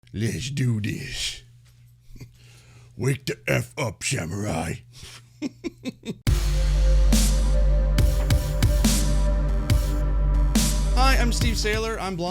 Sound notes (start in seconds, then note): 5.1 laughs; 6.2 upbeat music